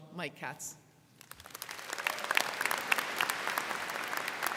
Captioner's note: crowd clapping